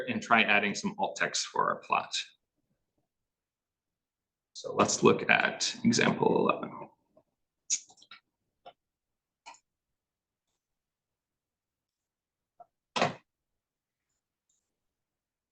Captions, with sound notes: and try adding some alt text for our plot, so let's look at example 11. (computer mouse clicking)